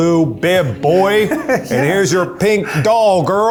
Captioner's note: laughs